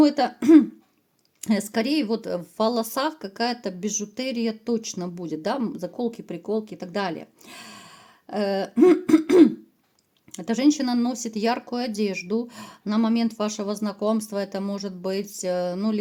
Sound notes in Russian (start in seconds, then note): 0.4 откашливается; 8.7 кашель; 8.8 откашливается